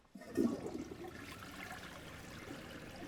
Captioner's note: toilet flushing